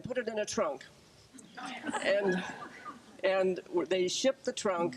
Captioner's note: group chuckles